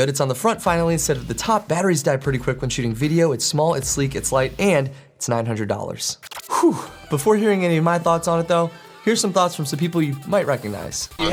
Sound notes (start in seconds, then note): 6.1 laser zaps